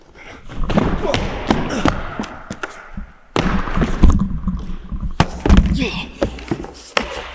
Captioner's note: nails scraping; static crackling; body thudding; Jacob grunting; Jacob groans